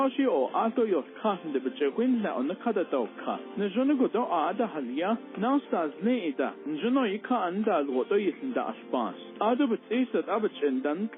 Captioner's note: foreign language spoken